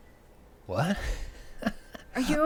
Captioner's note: chuckling